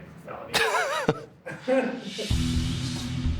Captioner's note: laughs